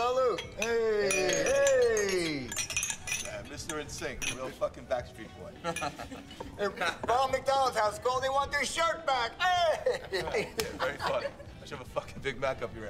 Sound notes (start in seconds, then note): 5.5 chuckles; 9.7 chuckles